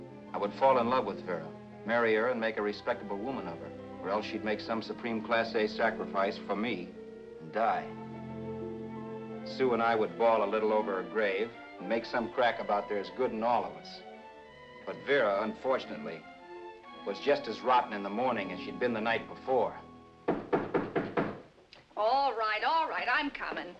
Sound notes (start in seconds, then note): 20.2 knocking